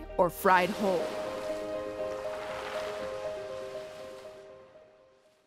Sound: water splashing as music ends

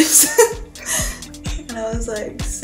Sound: laughs

